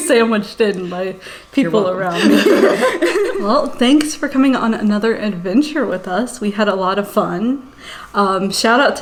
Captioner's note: laughs